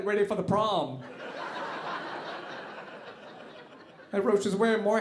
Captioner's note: audience laughing